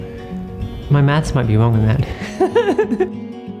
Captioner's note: laughs